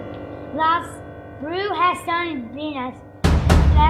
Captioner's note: speaking Spanish